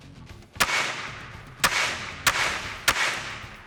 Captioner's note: gun bangs